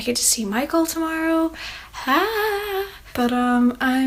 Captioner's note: excited, but hushed yelling